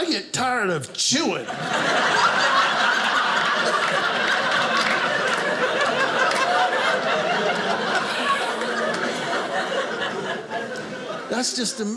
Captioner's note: audience laughing